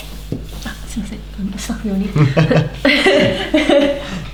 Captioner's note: laughs